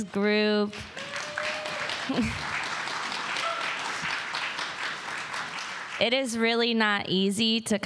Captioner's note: applause